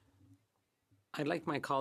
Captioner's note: speaking French